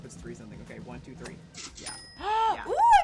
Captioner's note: gasps